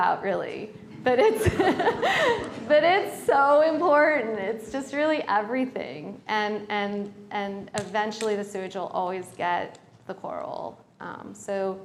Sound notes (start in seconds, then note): 1.2 laughter